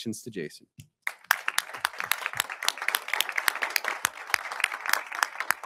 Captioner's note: audience applauding